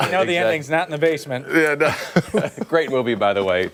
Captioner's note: laughter